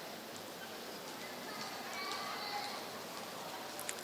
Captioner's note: applause